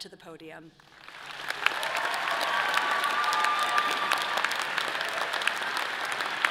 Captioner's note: audience applauding and cheering